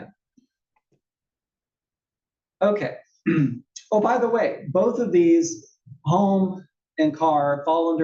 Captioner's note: cough